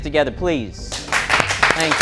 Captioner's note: applause